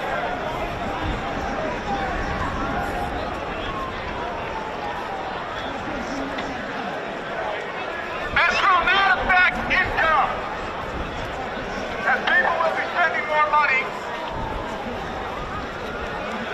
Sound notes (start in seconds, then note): 4.0 crowd noise